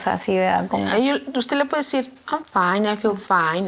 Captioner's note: speaking in Spanish